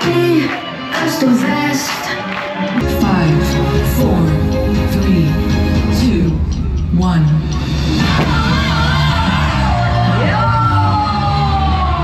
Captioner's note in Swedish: Applåder